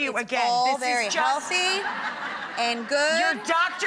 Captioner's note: laughing